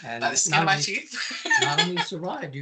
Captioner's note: laughing